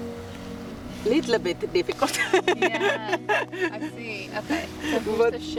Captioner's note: laughing